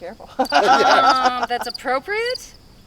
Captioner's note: people laughing